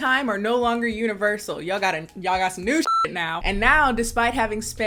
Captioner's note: beep